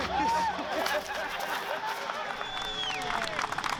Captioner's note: crowd cheering and laughing